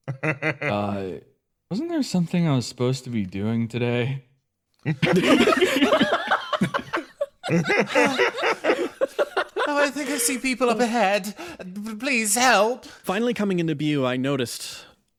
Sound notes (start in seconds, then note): 0.0 laugh; 4.8 everyone Laughs